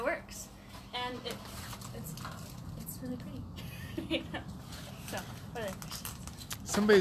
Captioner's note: laughs